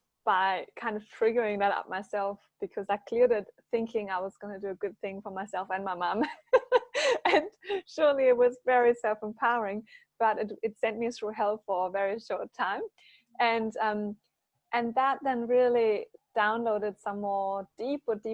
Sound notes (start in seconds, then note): 6.9 laughs